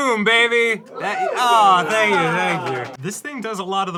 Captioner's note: crew ooos and awes